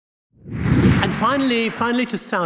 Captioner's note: air swooshing